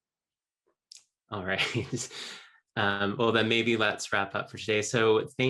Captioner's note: laughing